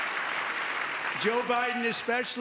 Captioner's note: applause; cheering